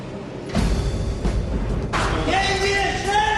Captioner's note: Говорейки на немски